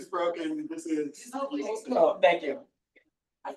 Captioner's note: people chattering distantly